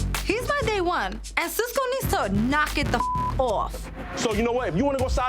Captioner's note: beep